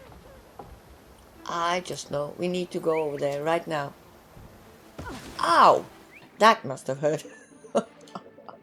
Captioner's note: chuckles